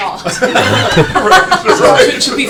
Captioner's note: laughter